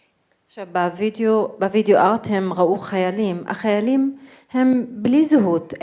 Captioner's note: speaking in foreign language